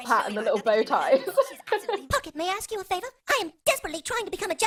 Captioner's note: laughs